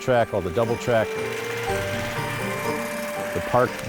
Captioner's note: gentle music; engine rumbling